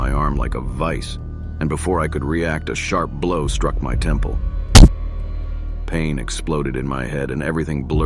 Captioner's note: thud